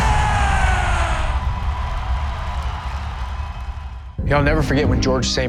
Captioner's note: crowd cheering